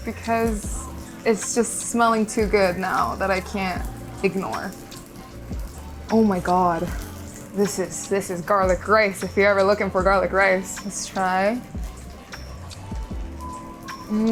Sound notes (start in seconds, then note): 4.7 food sizzling; 11.9 food sizzling; 11.9 gentle upbeat music